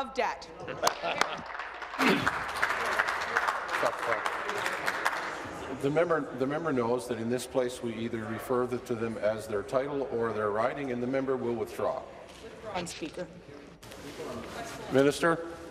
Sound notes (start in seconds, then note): 6.0 applause